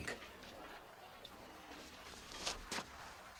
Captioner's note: whispers